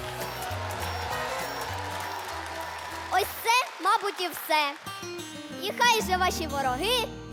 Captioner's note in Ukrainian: оплески